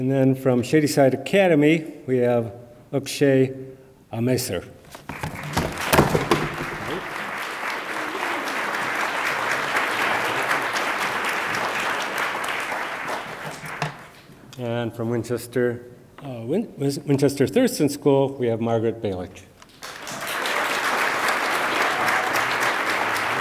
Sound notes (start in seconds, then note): 4.9 certificate thuds; 5.5 attendees applaud; 19.7 attendees applaud